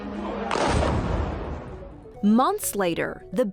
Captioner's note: explosion booming